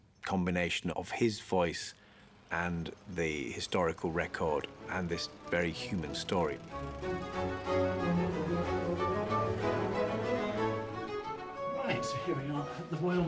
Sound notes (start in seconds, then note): 6.1 lawnmower humming; 6.1 stately instrumental music